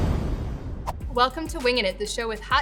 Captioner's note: air whooshing